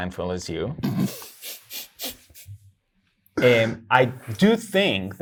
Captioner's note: laughing